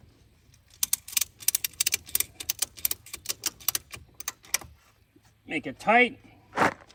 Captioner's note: ratchet clicking